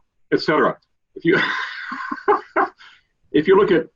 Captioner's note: laughs